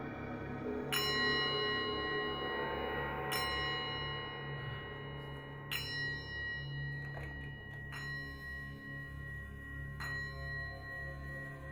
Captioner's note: bell chimes 14 times